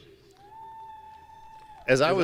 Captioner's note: audience cheering